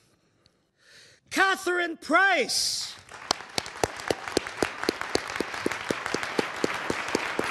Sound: audience applauding

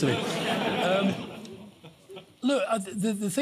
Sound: laughter

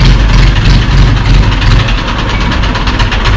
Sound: vehicle sound

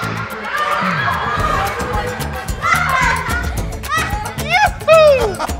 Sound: laughing

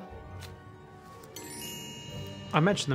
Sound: magical chime

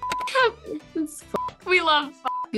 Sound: beep

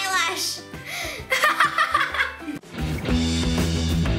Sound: laughs

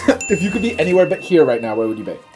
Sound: ding

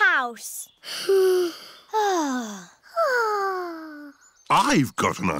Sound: all sigh

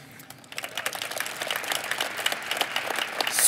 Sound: applause

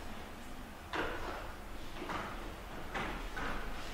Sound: shuffling around sound

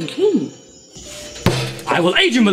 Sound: slams table

